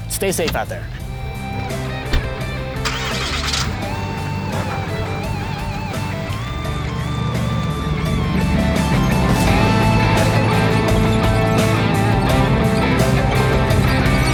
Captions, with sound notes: Stay safe out there. (door thumps) (motor growls) (upbeat metal rock music)